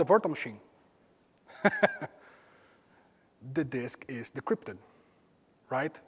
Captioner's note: laugh